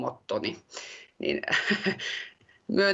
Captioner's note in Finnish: Puhujaa naurahtaa